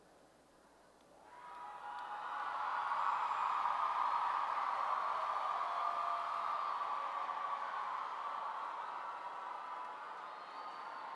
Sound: cheering

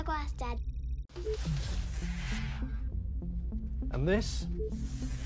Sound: ambient music; door beeps and whooshes

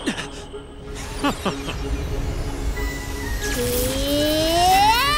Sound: chuckles

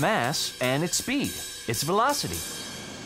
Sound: none

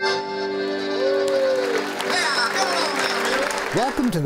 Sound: audience applauds

